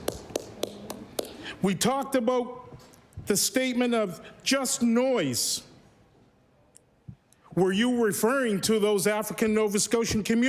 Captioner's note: applause